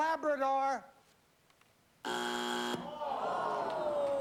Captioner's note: buzzer